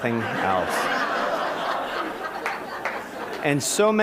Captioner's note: laughter